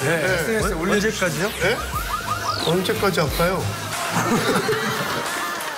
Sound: laugh

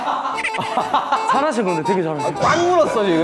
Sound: kekekekekekeke

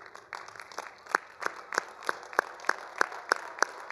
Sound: all applauding

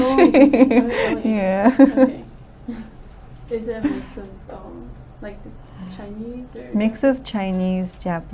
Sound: laughs

